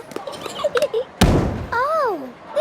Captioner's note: giggling, thudding